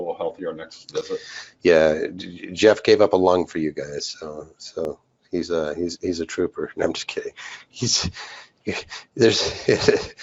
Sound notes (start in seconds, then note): 8.7 laughs